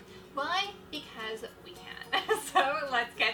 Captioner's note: laughs